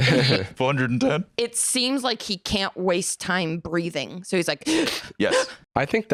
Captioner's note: gasping